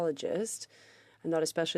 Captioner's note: speaking French